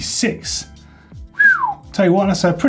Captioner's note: whistle